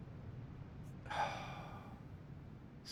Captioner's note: sigh